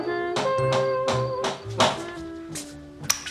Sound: knocking

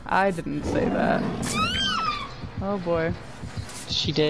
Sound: Pig growls and downs the other survivor

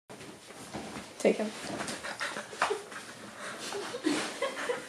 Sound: laughing

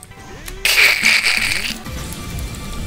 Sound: laughing screech

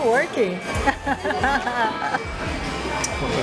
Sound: laughs

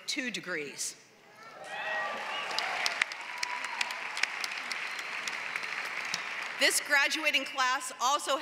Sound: applause

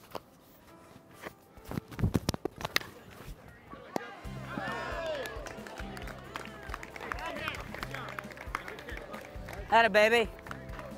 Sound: baseball hit; clapping

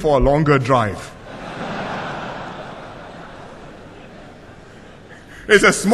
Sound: laughter

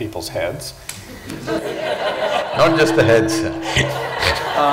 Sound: laughter

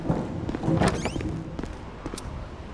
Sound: foot falls getting closer; door opening

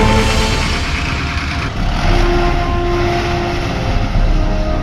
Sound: engine revving

